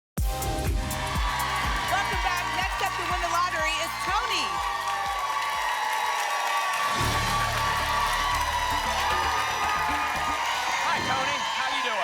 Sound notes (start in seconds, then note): 1.0 applause and cheering; 5.0 applause and cheering cont